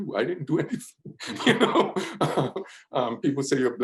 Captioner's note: laughs